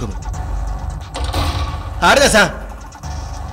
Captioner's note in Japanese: 扉の開閉音：バタン！